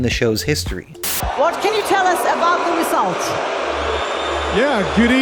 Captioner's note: crowd booing